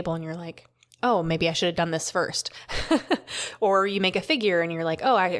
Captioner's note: laughter